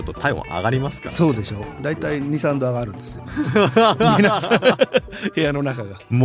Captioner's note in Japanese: 笑い